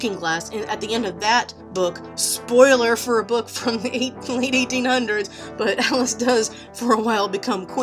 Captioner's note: laughs